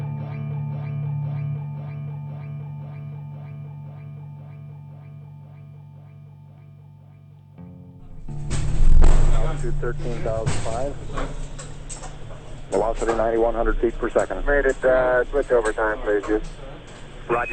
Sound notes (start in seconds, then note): 9.8 voiceover; 14.9 voiceover